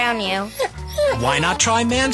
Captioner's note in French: Le chien gémit